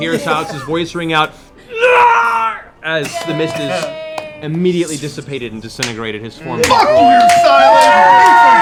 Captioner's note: screams; cheering